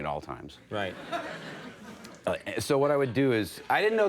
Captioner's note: audience laughing